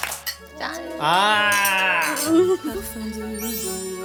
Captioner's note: cheers of celebration